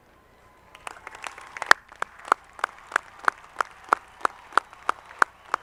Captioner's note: audience clapping